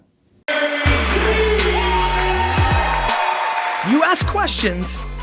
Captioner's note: applause